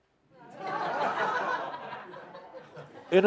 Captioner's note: laughter